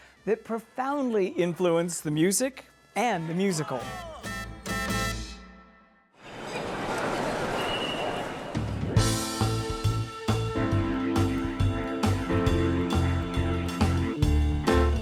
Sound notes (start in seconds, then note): 6.7 street noise; 8.9 up-tempo music